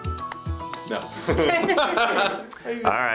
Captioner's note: laughs